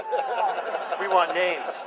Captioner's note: laughter